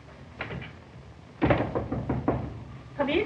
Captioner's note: knocking on door